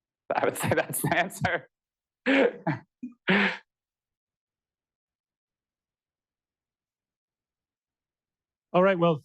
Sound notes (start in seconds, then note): 0.3 laughter